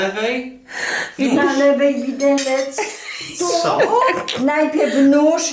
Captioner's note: brother speaking in Polish; grandma speaking in Polish